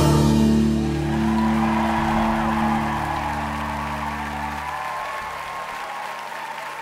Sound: cheering and applause

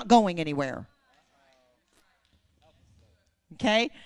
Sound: congregation praising

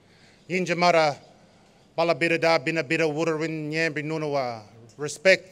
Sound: non-english speech

